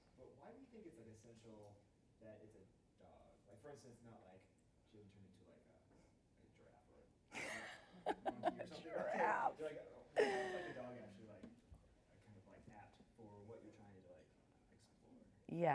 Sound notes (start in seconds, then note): 7.4 laughs